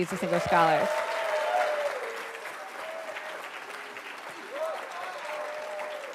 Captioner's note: attendees cheering and applauding